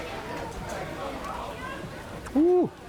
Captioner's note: restaurant chatter